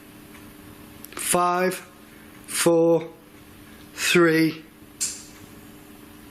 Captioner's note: click